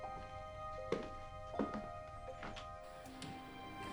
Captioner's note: footsteps departing